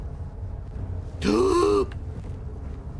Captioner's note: tense music; gasps loudly